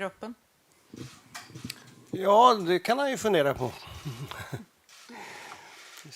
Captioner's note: laughs